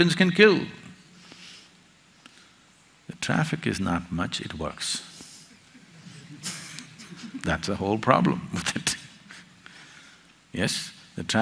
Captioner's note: laughter; laughs